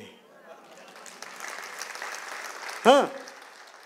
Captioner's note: applause